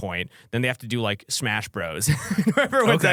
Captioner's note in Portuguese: risos